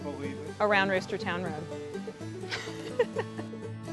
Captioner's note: laughs